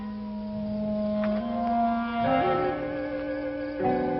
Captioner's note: wolves howling